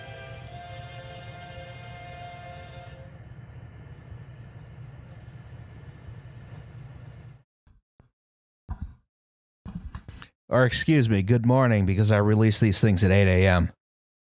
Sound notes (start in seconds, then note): 3.2 background tape hiss; 9.7 microphone being moved